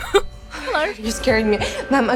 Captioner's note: Emma laughs; Zoe sighs